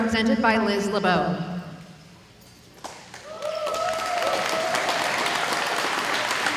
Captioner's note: audience applauding